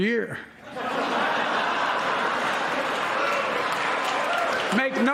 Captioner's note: applause